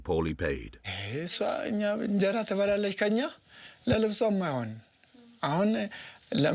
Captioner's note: speaking foreign language